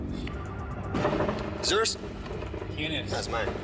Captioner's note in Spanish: Suena el celular